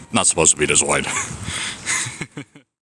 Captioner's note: chuckles